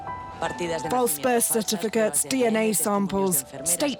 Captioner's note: female news reporter speaking over TV